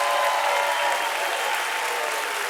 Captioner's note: applause